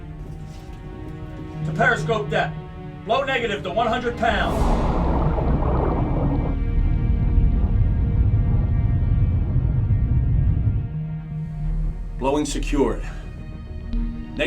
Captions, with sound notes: To periscope depth. Blow negative to 100 pounds. [water bubbling] [low hum] Blowing secured.